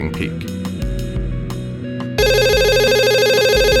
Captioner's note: ringing